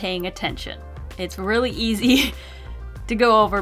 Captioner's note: laughs